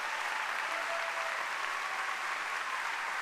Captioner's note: applause